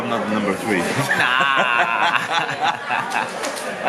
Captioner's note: laughs